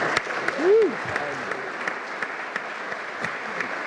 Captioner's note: all applauding